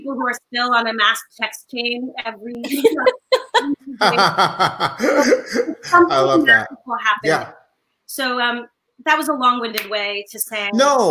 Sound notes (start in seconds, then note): 2.6 laughing